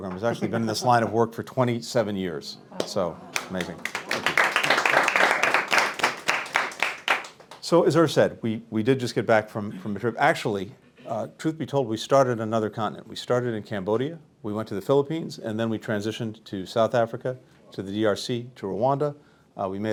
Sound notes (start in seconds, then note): 3.3 applause